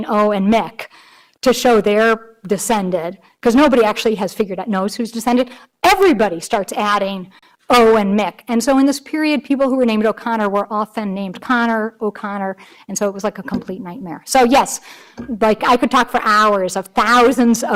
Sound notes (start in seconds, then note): none